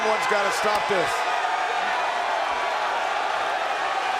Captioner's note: crowd cheering